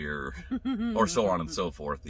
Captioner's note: laughing